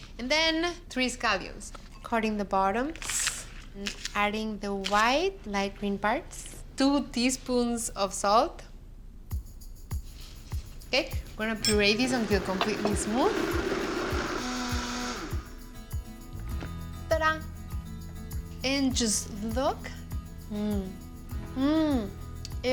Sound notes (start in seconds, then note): 12.0 whirring; 14.9 whirring stops